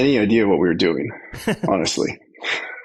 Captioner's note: laughs